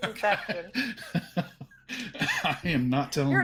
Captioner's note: laughing